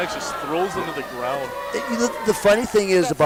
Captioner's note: crowd boos